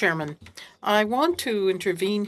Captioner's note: speaking French